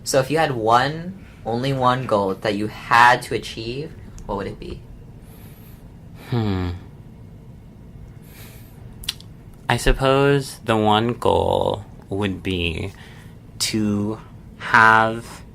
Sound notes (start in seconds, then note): none